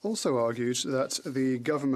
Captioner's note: speaking French